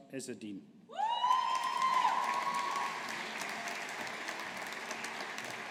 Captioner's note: audience applauding